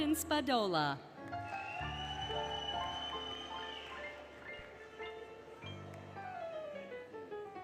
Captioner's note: applause, Cheering, Music